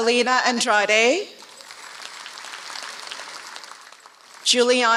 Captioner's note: applause